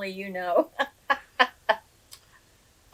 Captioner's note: laughs